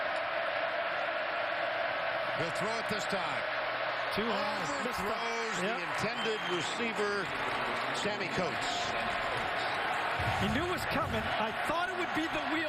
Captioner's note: crowd noise